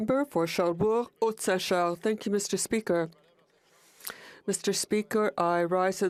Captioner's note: speaking in FRENCH